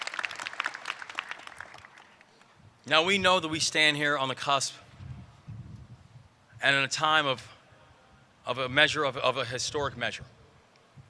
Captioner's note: applause